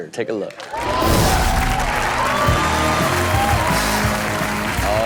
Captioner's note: audience cheers